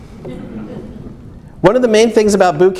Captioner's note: audience laughs